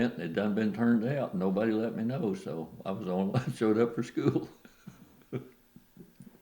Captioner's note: laughs